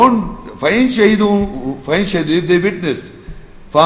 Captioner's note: Arabic